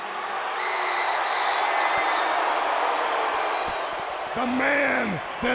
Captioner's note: crowd cheering